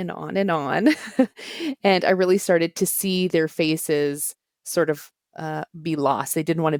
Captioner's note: laughter